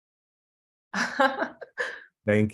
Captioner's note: laughs